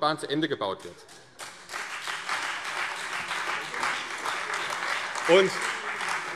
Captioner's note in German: Beifall CDU, Freie Demokraten und vereinzelt AfD